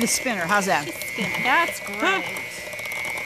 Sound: laughs

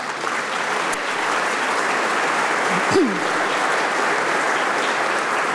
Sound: applause

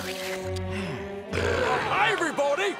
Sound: sighs, belches

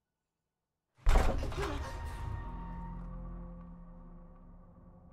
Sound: door slams open

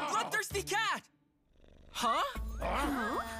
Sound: purring

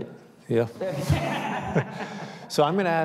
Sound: audience laughing

